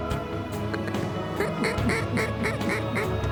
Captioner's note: duck calls